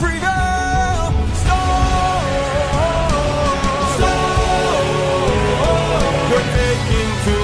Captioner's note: storm